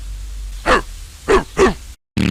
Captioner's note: barks enthusiastically